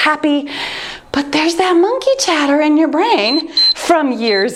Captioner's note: timer beeps